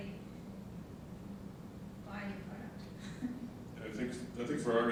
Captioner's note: laughing